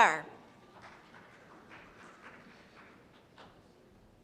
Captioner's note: applause